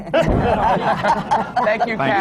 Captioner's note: laughter